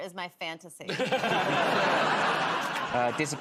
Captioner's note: laughter